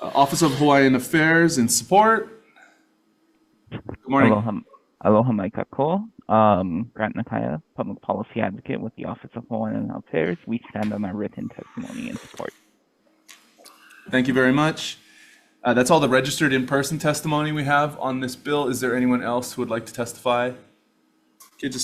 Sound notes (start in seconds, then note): 4.9 speaking in foreign language